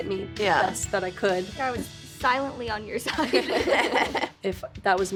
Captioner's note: all laugh